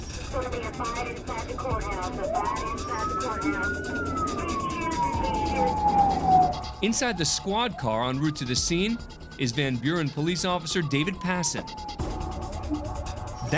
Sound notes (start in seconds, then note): 2.0 siren